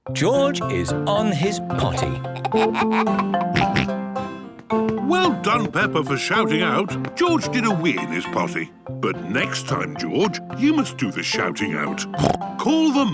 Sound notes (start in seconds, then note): 2.3 giggles, snorts; 12.1 snorts